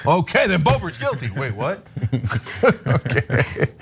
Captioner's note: laugh